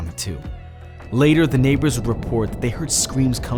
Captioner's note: door banging